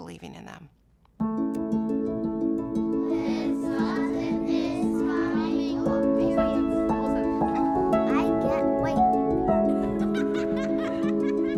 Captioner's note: children talking and laughing